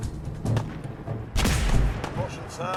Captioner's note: blam!